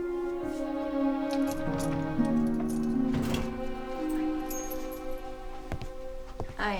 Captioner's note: keys jingling; drawer rattling